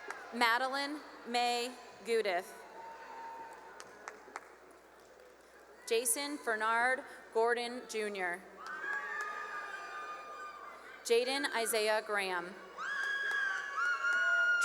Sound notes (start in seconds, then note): 0.0 cheering and applause; 2.6 cheering and applause; 8.5 cheering and applause; 12.6 cheering and applause